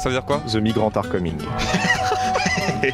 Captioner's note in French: rires